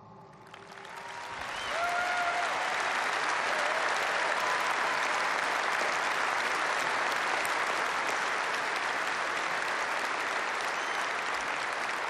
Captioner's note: applause